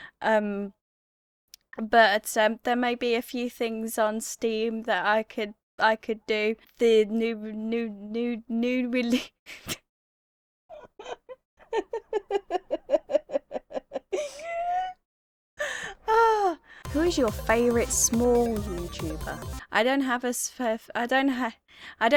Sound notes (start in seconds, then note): 8.1 stammering then bursts out laughing